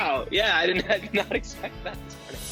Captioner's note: laughs